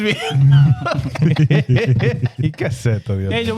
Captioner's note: speaking In Foreign Language